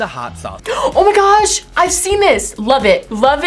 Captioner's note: gasps